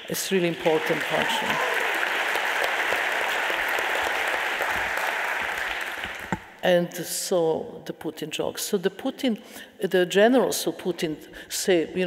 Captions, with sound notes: It's really important question. (audience applauding) And so the Putin jogs. So the Putin, the generals who Putin say,